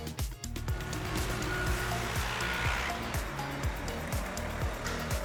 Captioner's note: truck beeping, general construction sounds